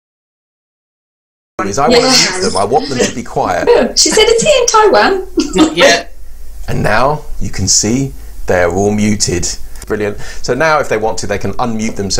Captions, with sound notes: (All participants chatting) I want them to be quiet. And now you can see they're all muted. Brilliant. So now if they want to they can unmute themselves.